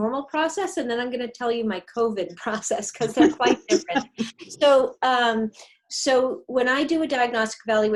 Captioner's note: laugh